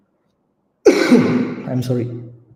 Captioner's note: coughs